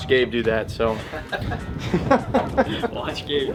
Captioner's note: laughter